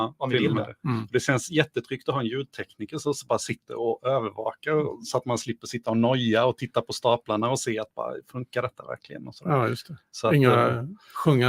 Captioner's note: speaking in Swedish